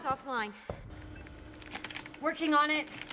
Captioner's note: beeping